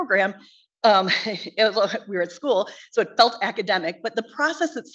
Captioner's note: chuckles